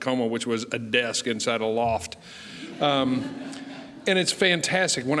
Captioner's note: laughing